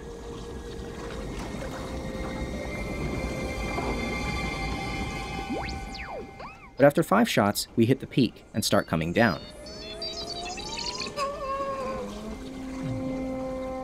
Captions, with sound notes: (Inspirational music playing) (R2 beeps) But after five shots, we hit the peak and start coming down (Yoda sighs softly, sadly)